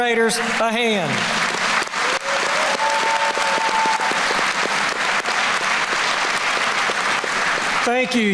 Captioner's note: applause